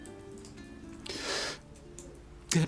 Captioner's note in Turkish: İç çekme sesi